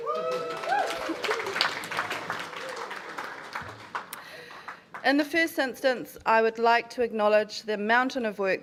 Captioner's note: applause